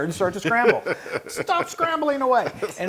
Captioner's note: laugh